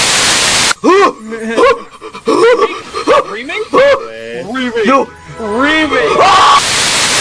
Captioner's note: guy sounding like a monkey